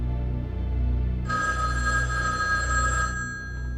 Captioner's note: phone ringing